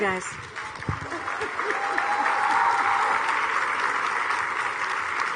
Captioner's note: audience cheering